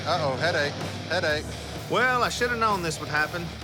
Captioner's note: none